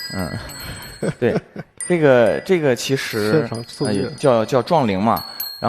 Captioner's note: the colliding bells